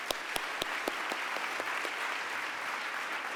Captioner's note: applause